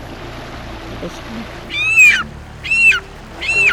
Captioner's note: bird calls